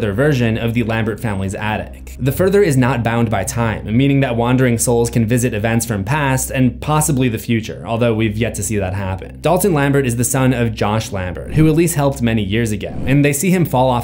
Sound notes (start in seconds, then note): none